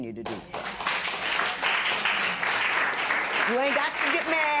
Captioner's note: applause